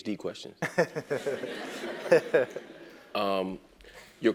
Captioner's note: laugh